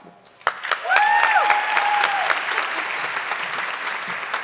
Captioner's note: audience clapping